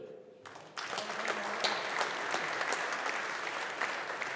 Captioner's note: audience applauding